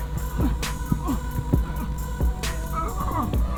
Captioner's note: grunting